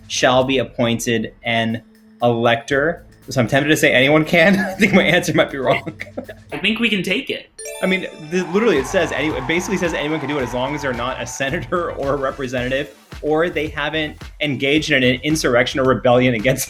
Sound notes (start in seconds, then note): 7.6 chime rings; 7.6 crowd cheers